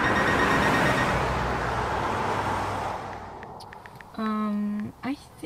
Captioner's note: car roars